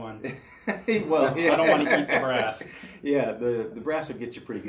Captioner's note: laughing